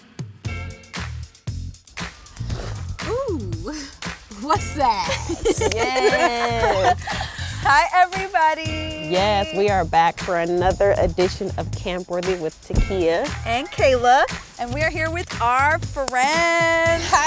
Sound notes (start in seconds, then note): 0.1 bright playful music; 4.9 laughing